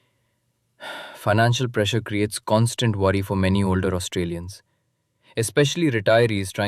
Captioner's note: sighs